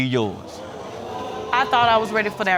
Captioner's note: audience gasping